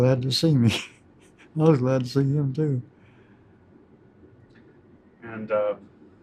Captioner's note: laughs